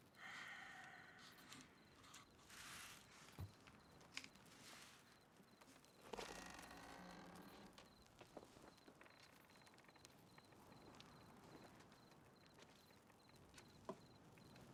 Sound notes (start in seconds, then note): 0.1 sighs; 6.1 hinge creaks